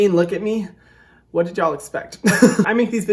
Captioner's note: laughing